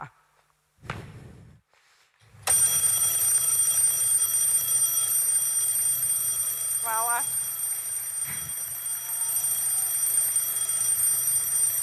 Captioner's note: alarm sound